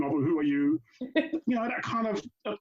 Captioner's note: laughs